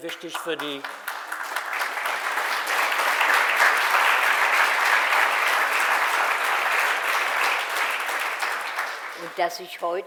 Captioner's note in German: Applaus